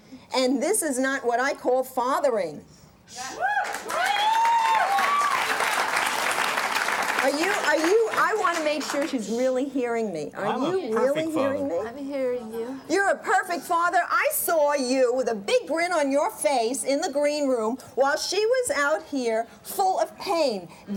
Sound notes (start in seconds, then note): 3.3 cheering